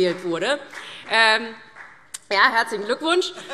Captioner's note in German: Beifall